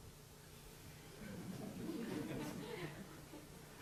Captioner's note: audience laughing